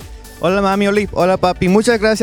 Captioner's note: non-english speech